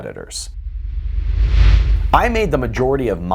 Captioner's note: frame whooshing